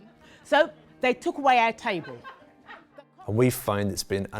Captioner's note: audience laughing